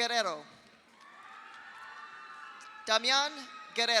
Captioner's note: audience cheers; audience applauds